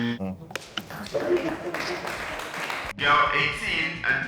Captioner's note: clapping